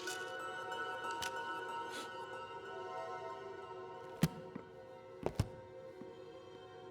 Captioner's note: eerie music continues; Chef sniffs